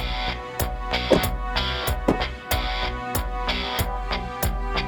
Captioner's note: car doors slam